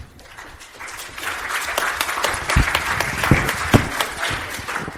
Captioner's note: audience applauds